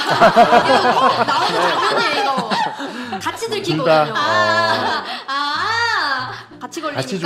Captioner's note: laughter